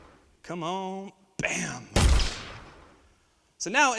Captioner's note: gun fires